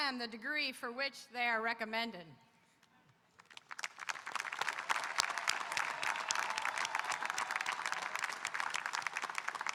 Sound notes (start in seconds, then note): 3.5 audience applauding and cheering